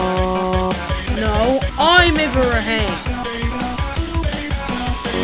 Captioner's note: in Irish